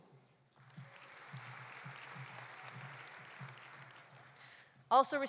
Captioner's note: audience applauding